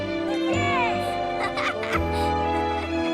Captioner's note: more laughing